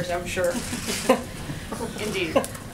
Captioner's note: laughter